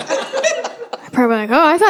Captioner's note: audience laughing